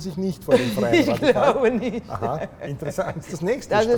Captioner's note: laughs